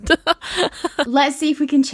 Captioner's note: laughing